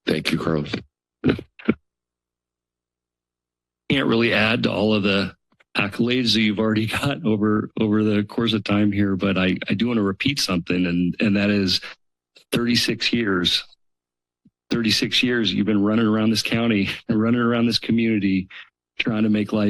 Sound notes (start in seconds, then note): 5.8 chuckles